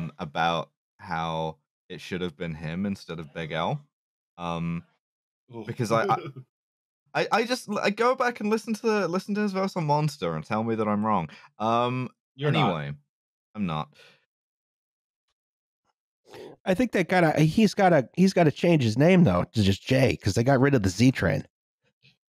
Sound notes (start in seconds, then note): 5.6 laughs